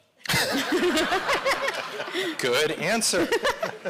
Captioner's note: audience laughing